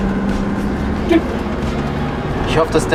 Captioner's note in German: Hupen